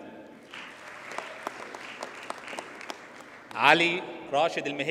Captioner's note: audience applauds